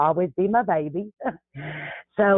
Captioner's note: laughs